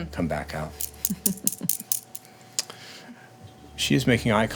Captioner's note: laughing